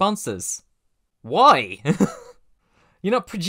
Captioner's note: chuckle